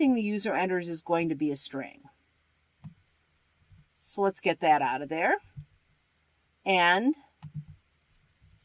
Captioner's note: typing